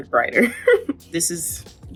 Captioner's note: Coco laughing